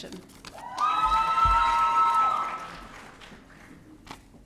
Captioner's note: audience cheering